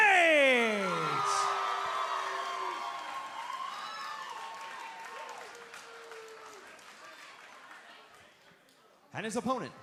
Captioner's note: crowd cheering